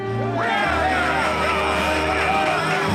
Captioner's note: cheering